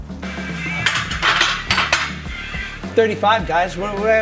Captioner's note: metal clanking